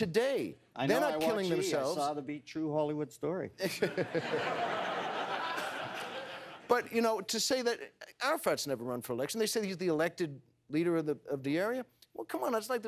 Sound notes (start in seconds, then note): 3.6 laughter